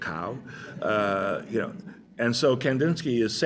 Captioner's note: laughter